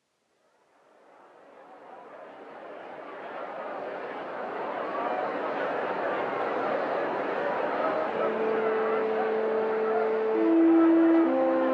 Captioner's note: sounds of crowd chattering